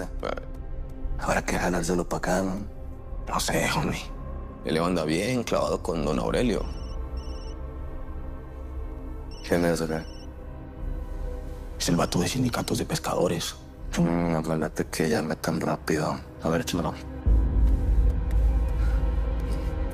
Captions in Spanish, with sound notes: - Hum. - Habrá que jalárselo pa' acá, ¿no? - No sé, jomi. El Leo anda bien clavado con don Aurelio. [Suena el celular] - ¿Quién es o qué? - Es el bato del sindicato de pescadores. - Hum, no me late que llame tan rápido. A ver, échamelo.